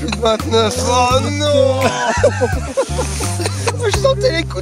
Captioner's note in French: rires